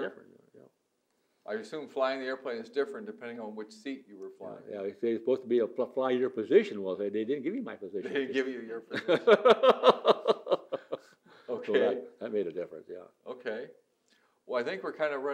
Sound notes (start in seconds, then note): 7.3 laughs; 9.0 laughs